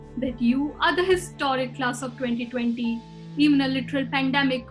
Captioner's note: none